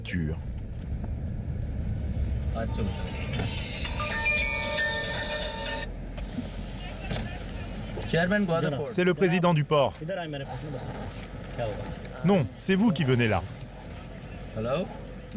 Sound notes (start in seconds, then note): 2.8 cellphone chiming; 8.1 both speaking foreign language